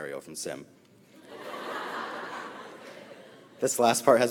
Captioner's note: audience laughs